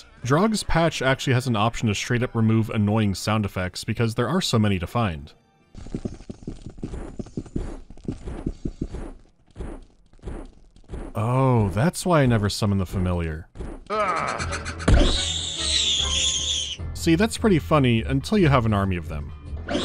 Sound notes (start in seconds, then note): 13.9 ear-piercing shriek; 19.7 ear-piercing shriek